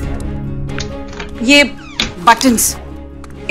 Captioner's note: Door opens and closes